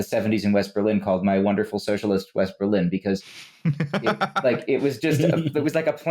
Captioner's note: laughs